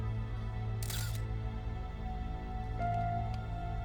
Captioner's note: suspenseful music; camera shutter clicks; suspenseful music